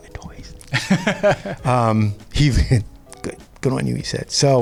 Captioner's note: laughs